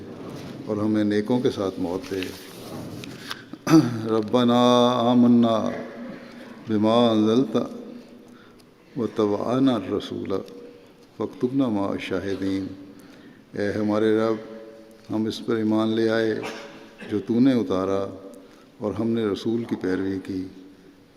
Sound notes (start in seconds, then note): 3.1 Arabic